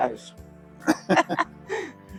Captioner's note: laughing